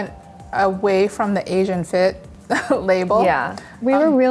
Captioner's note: laughs